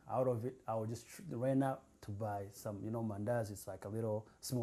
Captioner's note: non-english